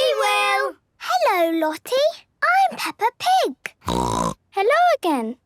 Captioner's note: snorting